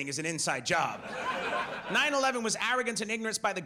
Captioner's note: audience laughs